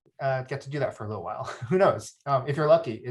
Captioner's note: chuckles